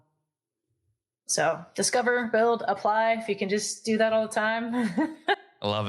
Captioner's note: laugh